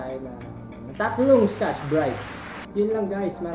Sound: self-aggrandizing applause #4

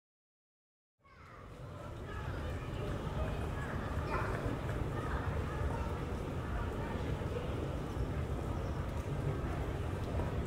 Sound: sound of shopping center and train

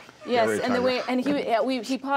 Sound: laughs

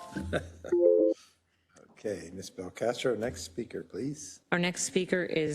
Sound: laugh

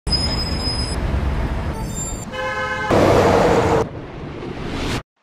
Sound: street Sounds

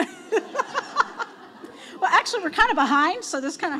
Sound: laughs

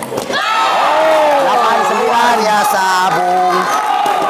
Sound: applause

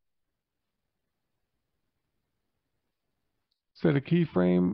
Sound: silence

